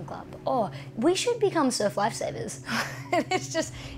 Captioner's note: laughs